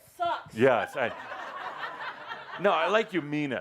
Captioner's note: laughter